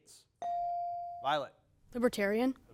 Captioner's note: bell dings